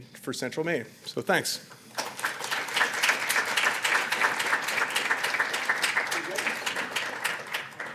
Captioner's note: applause